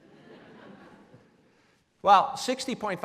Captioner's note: laughing